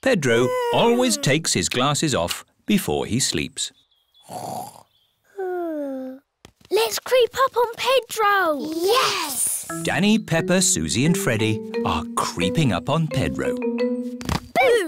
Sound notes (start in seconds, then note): 4.2 snores